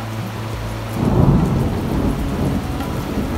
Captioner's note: thunder